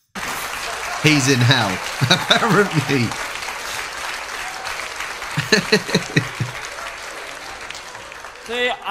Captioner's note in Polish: Aplauz